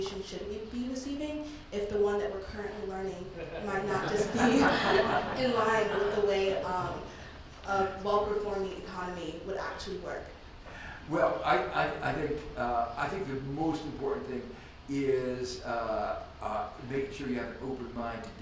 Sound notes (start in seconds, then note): 3.3 laughs; 3.3 Dr. Stiglitz and audience laugh